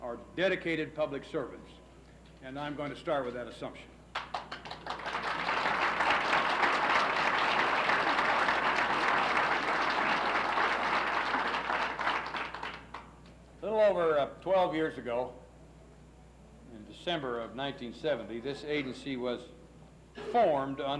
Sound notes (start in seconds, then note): 4.1 applauses